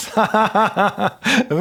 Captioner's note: laughing